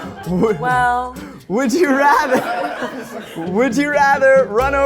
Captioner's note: crew laughing; crew laughing